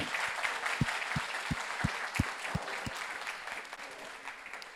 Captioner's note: audience applauds